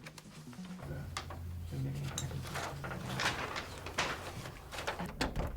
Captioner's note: soft dramatic music; group softly chattering